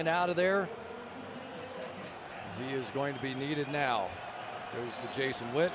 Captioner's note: crowd cheering